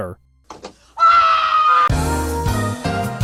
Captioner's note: screaming